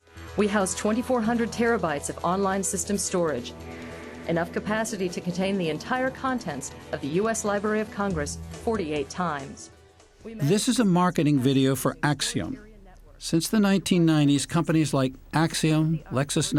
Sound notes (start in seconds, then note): 11.3 voice-over